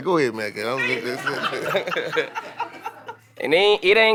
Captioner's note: group laughing